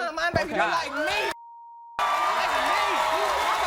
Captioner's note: audience cheers